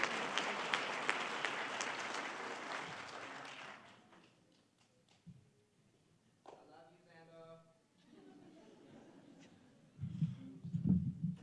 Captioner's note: applause